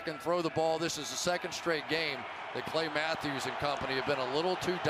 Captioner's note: cheering